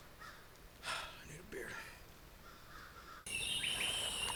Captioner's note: sighs; birds chirping